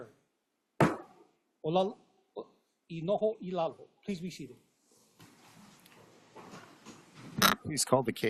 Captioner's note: gavel bangs once